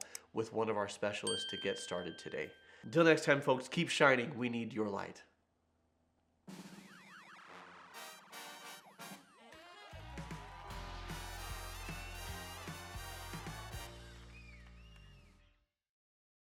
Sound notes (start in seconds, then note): 6.6 upbeat music; 7.0 people applauding